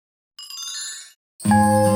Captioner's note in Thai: เสียงเอฟเฟกต์